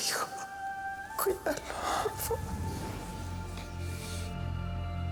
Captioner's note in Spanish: llorosa